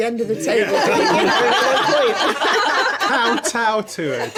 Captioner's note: laughing